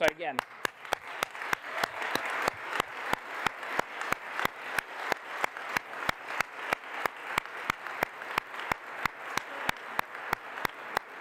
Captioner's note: applause